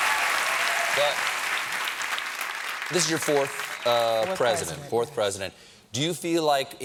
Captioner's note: cheers and applause